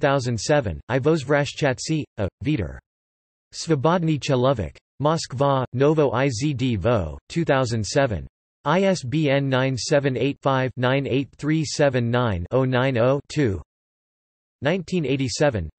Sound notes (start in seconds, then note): 0.0 in German; 3.8 in Polish